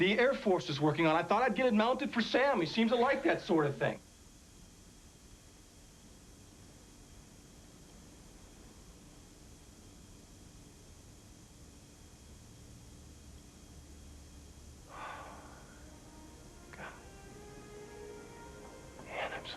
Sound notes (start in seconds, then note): 14.9 sighs; 17.1 whispers